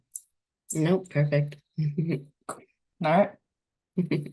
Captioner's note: chuckles